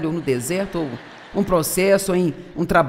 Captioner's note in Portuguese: audiência ri